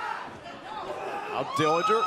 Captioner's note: crowd cheering